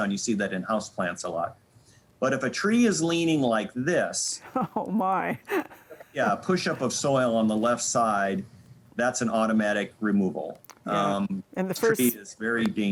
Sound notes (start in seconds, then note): 4.4 laughing